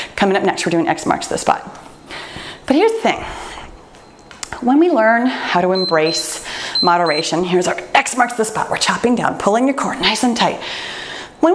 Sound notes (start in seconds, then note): 5.6 timer beeps